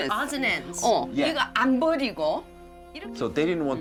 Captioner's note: speaking Korean